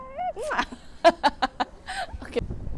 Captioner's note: laughs